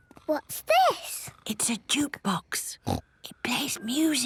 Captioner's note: whispering